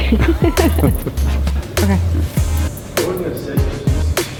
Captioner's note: laughter